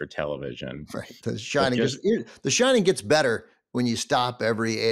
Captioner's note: laughs